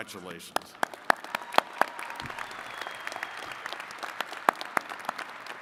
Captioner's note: attendees cheering and clapping